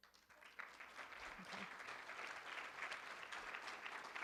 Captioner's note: room applauds